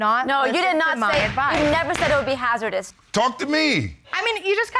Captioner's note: Judge Brogdon bangs gavel